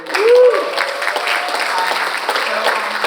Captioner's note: all applauding; audience cheering